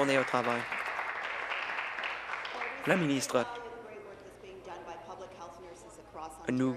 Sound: applause

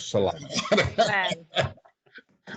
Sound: chuckling

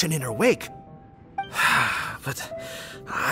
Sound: sigh

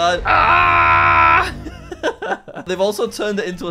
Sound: screaming

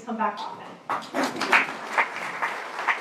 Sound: applause

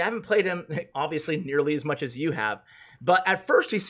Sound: laughs

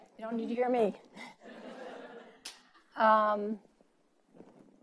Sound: laughing

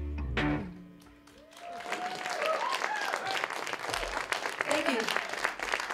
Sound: applause

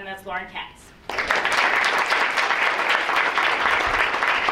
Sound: audience clapping

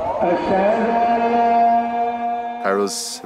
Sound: crowd cheering; man speaking in foreign language fades

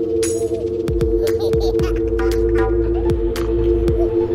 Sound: baby laughing; upbeat music

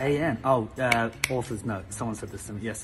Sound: snaps fingers

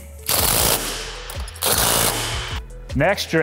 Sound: torque wrench buzzing

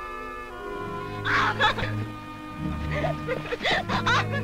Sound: Natalie laughing

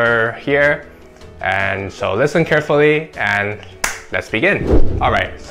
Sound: claps

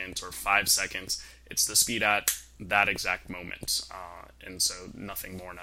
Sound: snap

